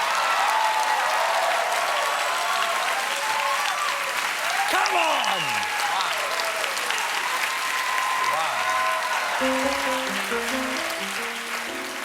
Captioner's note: cheers and applause; piano riff